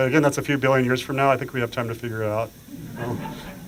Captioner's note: laughter